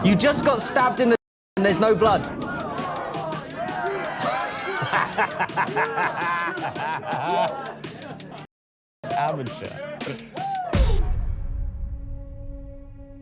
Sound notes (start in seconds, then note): 4.2 Danny laughs; 10.7 dramatic music; 13.0 ominous music